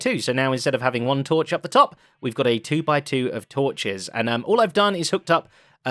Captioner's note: none